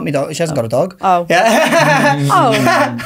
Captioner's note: laughs